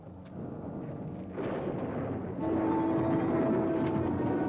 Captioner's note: thunder rumbling; ominous music